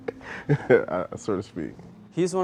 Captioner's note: laughing